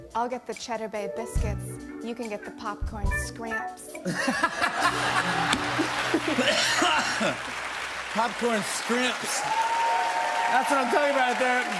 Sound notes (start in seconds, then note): 4.0 laughter; 5.1 coughs